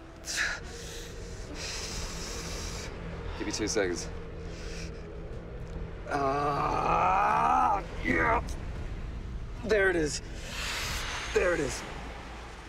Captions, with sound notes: Give me two seconds. [yells] Yeah, there it is. There it is.